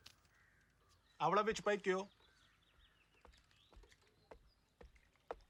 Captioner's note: speaking foreign language